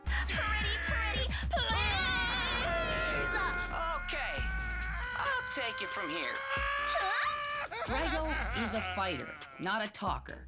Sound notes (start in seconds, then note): 1.8 roaring